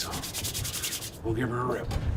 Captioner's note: wind blowing; whispering